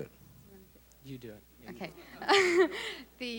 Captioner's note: laughs